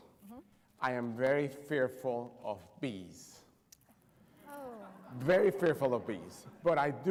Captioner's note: laughter